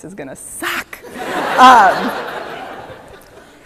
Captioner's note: laughter